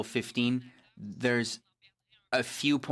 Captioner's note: speaking FRENCH